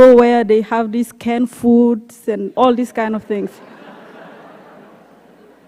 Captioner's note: laughter